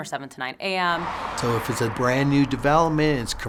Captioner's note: sounds of cars driving